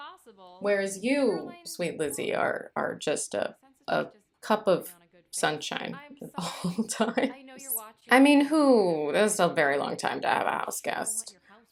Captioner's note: laughter